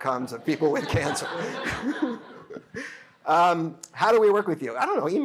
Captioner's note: laughter